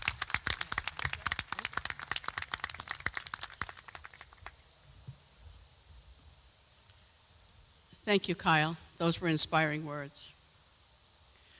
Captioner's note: applause